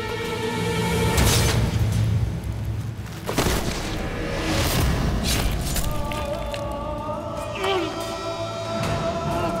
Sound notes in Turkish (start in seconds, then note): 6.6 İnilti sesi